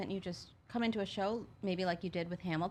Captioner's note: none